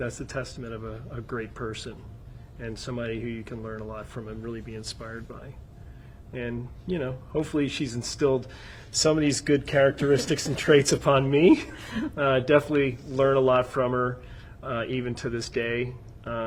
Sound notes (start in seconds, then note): 11.4 laughing